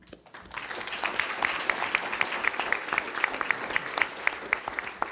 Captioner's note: attendees applauding